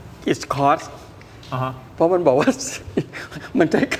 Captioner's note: laughter